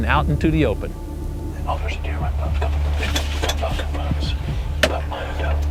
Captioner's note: whispering